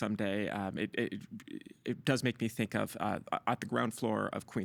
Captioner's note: stammering